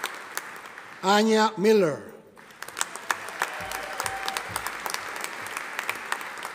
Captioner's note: audience applauding